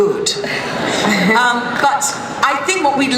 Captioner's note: laughter